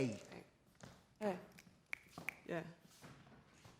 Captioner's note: martina clicks fingers